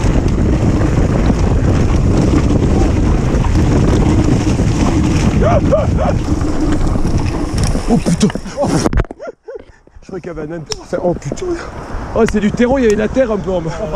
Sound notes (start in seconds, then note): 8.0 french cursing